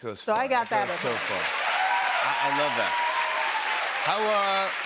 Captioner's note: cheers and applause